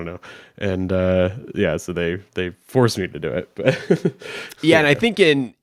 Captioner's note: chuckles